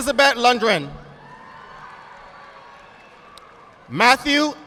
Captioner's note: audience applauding